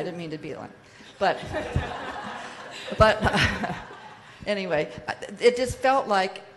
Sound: audience laughs

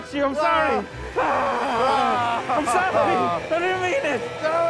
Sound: wails

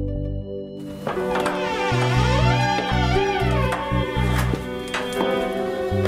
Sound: door squeaking

